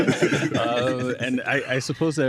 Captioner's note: laughter